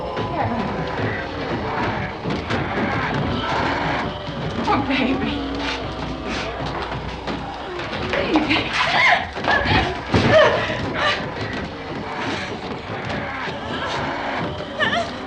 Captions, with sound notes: Karen. Poor baby. Baby. [ GASPING ]